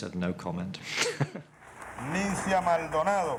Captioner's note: laughs